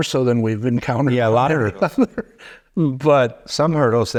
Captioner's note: chuckling